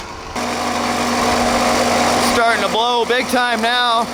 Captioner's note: motor running